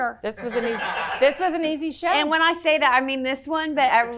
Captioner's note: laughing